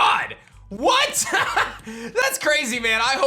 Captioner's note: laughs